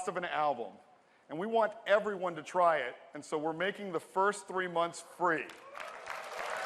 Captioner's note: cheers and applause